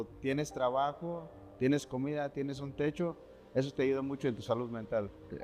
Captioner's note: speaking in Spanish